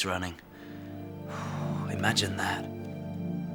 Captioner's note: sighs